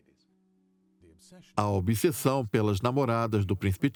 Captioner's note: voiceover